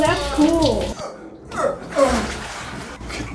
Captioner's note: makes exertion noises